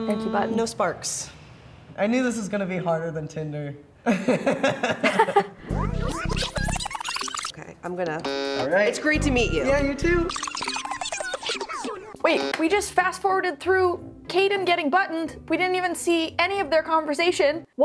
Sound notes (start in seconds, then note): 4.1 laughing; 5.9 sped up speech; 8.2 button buzzing; 11.0 sped up speech